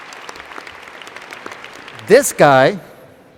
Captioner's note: applause